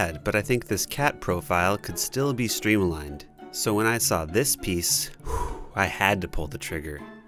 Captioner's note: heavy breathing